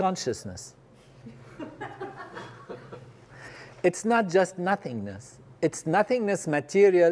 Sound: laugh

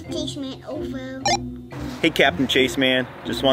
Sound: walkie talkie beeps

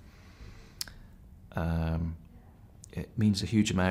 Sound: clicks tongue

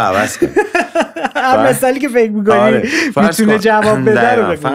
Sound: laughter

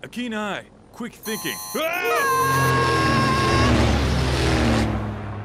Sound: beeping; screams

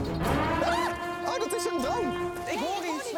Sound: alarm

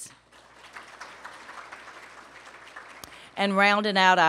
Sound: applause

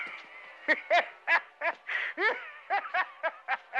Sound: laughing

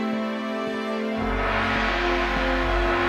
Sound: gong ringing

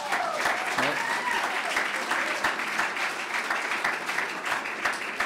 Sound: clapping

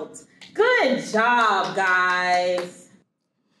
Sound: clapping

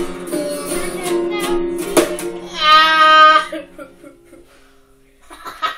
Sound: crying; laughing

